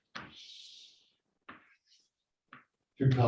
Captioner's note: chalk scrapes loudly